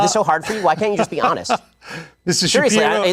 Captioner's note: laughs